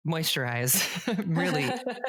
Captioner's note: both laugh